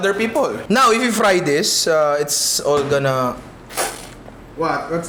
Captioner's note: poof sound